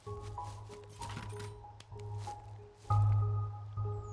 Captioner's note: soft music; steel clattering; soft music